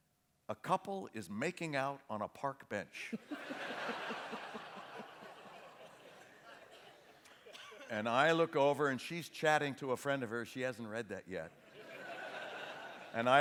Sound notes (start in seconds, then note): 3.0 laughter